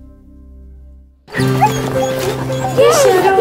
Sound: puppies yelping

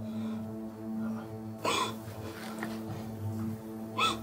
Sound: woman sobbing

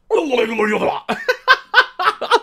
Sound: laughs hysterically

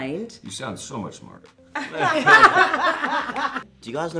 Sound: all laugh

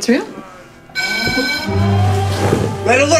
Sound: alarm bell

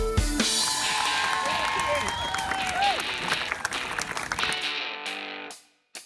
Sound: clapping and cheering

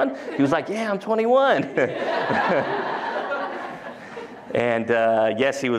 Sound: laughter

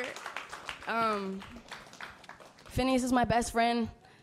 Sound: applause

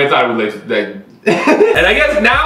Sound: laughs

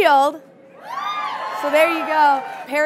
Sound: audience cheering

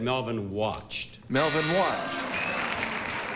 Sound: buzzer

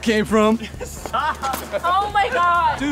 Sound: laughing

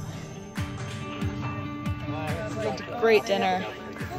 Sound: crowd chattering

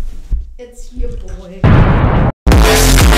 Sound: explosion

